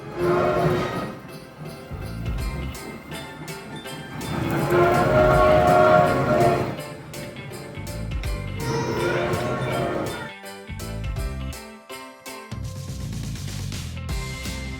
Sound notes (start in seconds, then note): 0.1 train tooting; 4.3 train tooting; 8.5 train tooting & kid whining